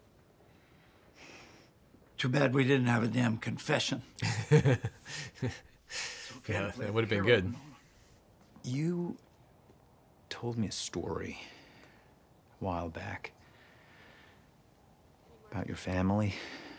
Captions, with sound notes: Too bad we didn't have a damn confession. - (laughs) Yeah, that would've been good. - You told me a story a while back about your family.